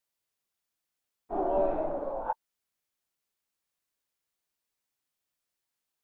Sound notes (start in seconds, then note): 1.3 creepy wind